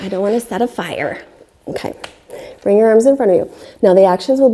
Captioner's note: deeply inhaling